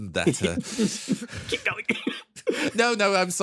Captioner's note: Etete Laughing